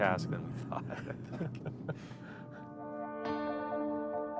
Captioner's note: both chuckle